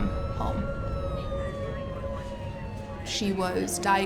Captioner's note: siren